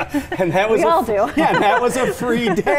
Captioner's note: laughing